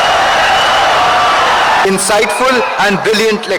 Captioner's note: wild applause and cheering for 17 seconds